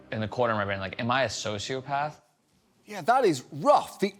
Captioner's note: none